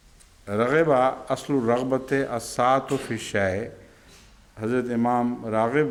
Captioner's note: Arabic